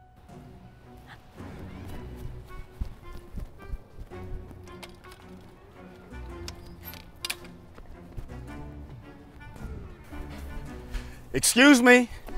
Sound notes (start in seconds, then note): 6.9 fence jingles